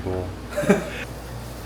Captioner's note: chuckles